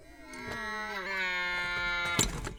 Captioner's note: moaning